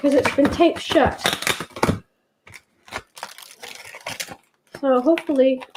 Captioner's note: paper shuttering sound